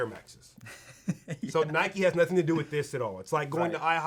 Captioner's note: laughs